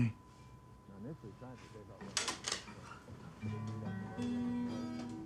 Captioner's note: Abe speaking faintly